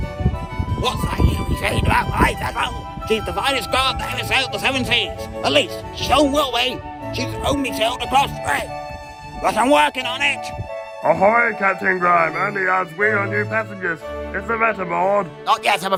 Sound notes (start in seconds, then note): none